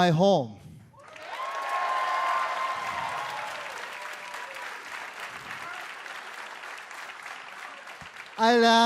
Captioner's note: crowd cheering